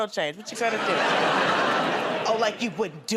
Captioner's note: laughter